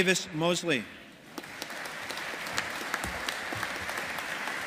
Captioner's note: audience applauding